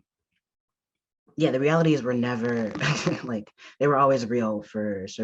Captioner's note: chuckles